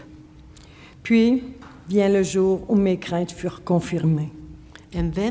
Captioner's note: speaking French